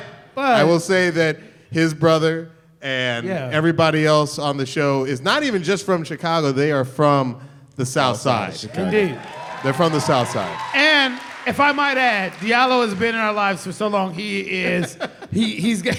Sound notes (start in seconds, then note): 8.5 cheering